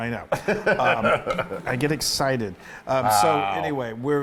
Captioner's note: laugh